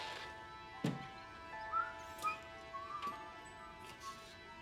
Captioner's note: Tom whistling